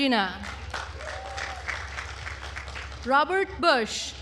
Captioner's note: attendees applauding